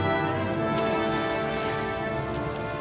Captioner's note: splashes